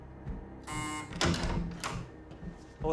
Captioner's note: buzzer